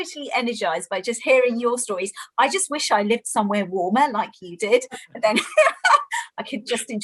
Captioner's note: laughter